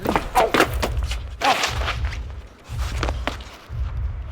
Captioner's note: Max groaning